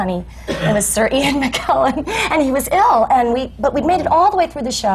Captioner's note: laughs